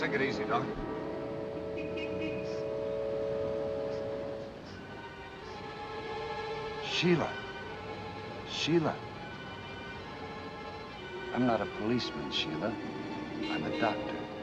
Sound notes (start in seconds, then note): 1.9 horn honking; 5.0 suspenseful music